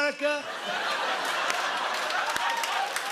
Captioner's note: laughter